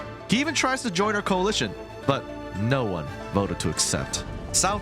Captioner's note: none